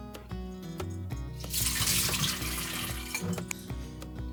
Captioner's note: sound of throwing away hot water